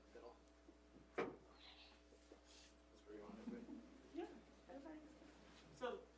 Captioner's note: board members chattering